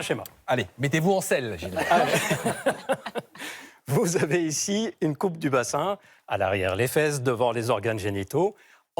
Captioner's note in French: rires